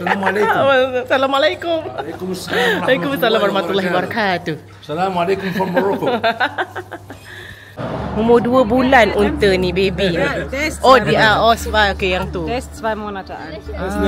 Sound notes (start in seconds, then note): 7.2 laugh; 10.5 speaking German